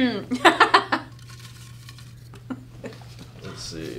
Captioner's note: Jeanine laughs